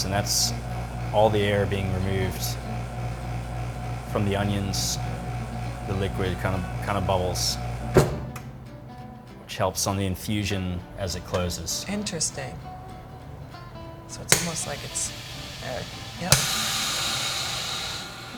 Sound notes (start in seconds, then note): 7.9 vacuum sealer thuds; 16.4 sealer bag popping